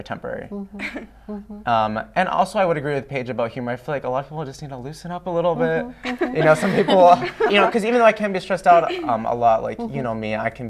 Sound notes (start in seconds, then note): 6.0 laughter